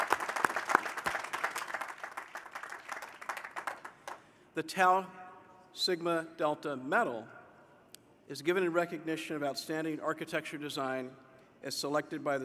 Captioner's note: applause